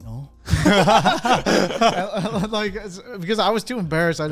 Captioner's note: all laugh